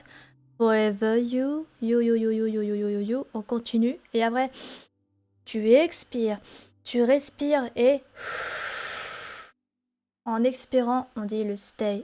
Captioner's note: exhaled breath